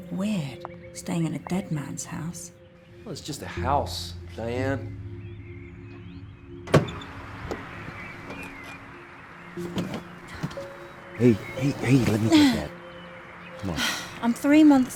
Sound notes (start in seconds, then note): 13.6 sighs